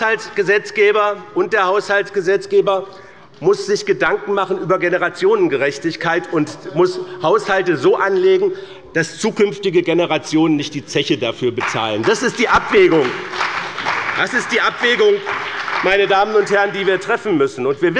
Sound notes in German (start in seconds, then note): 11.6 Beifall bei der CDU und dem BÜNDNIS 90/DIE GRÜNEN